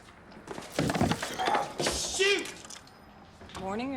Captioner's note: coffee sloshing